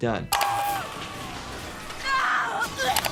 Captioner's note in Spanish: persona gritando; crepitaciones eléctricas; personaje gritando